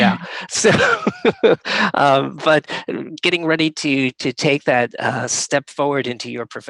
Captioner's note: laughs